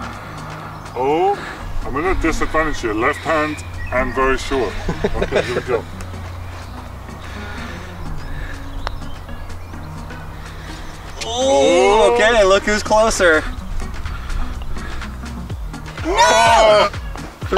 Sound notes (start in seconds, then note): 4.4 host laughing